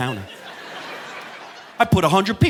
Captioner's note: audience laughing